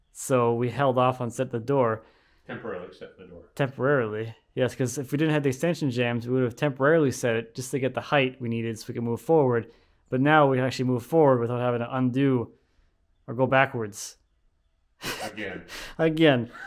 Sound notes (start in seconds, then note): 15.0 laughing